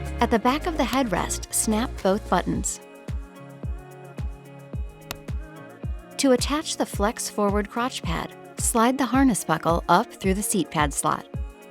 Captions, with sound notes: At the back of the headrest, snap both buttons. (gentle music) (buttons snapping) To attach the flex forward crotch pad, slide the harness buckle up through the seat pad slot.